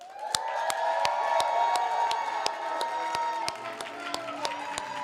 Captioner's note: cheers, applause